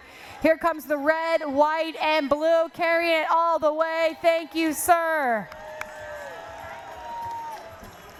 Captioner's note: cheering